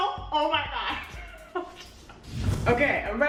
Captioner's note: laughing